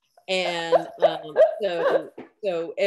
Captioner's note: laughs